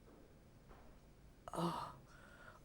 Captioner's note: groan